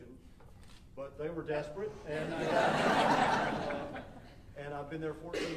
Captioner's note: audience laughing